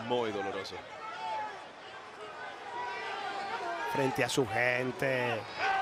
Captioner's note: applause